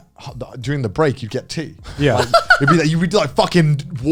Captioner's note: laughs